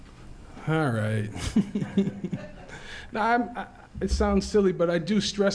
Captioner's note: laughs